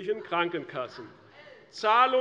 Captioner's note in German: Zuruf der Abg